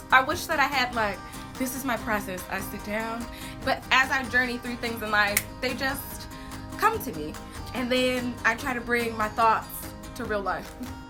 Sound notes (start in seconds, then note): 5.3 snaps fingers